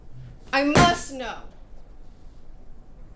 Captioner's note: bangs